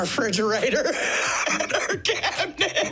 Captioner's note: laughing